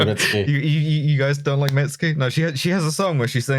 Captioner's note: laughter